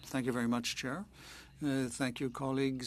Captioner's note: speaking French